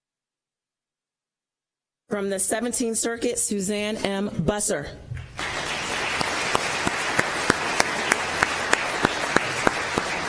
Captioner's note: applause